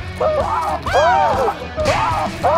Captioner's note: whoo!!